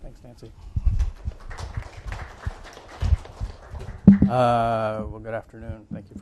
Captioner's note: audience clapping